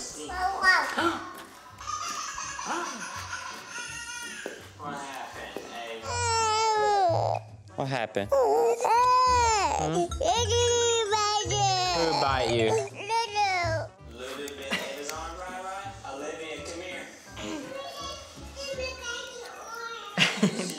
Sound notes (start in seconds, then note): 1.6 gasps; 2.5 crying on video; 6.1 crying